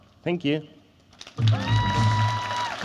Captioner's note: cheering and Applause